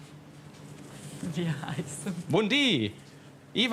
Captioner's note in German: Lachend